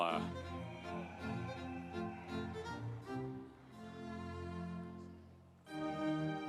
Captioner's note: audience cheering; instrumental music